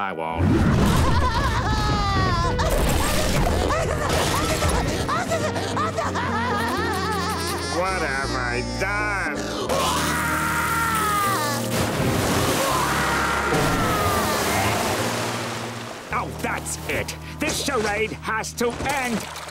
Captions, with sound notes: [SpongeBob crying] [SpongeBob crying] What have I done? [SpongeBob crying] [SpongeBob crying] Oh, that's it. This charade has to end.